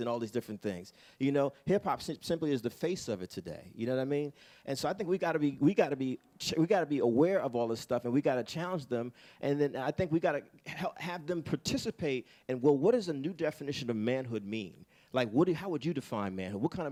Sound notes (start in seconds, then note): none